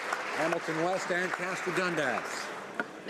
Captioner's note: some Applause